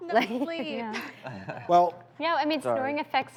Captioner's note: laughter